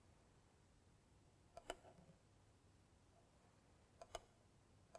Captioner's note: mouse clicking